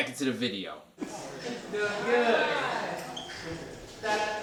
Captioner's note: crowd chatter